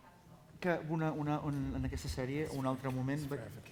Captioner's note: non-english speech